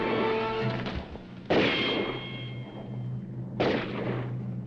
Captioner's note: dramatic music; guns firing; dramatic music